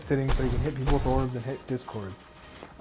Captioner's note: orbs ringing